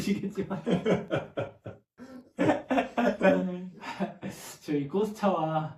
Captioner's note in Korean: 웃음